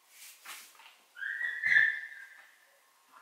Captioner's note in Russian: визг собаки